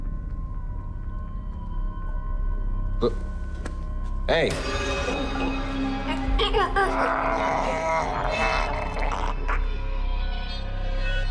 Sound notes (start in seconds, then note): 5.2 choking